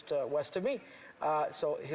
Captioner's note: speaking French